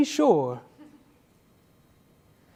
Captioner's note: sighs